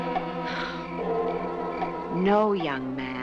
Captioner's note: Mrs. Wilson exhales